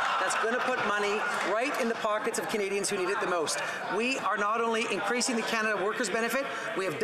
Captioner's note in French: voix de l'interprète